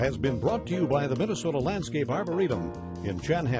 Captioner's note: voiceover